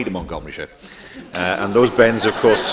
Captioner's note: laughter